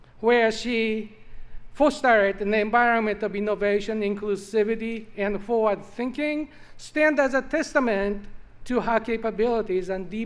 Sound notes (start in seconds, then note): none